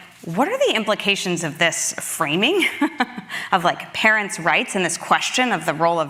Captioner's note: laughs